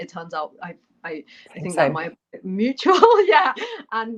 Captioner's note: laughter